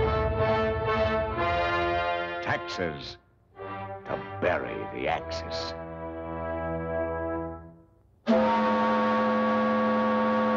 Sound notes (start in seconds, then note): 8.3 whistles Blow